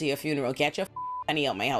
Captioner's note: beep